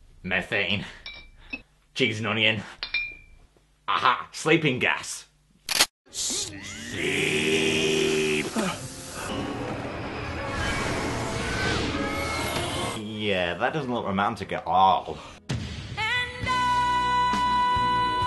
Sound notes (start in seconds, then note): 5.6 loading sound; 12.8 sarcastically